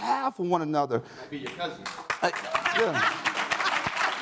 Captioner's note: audience claps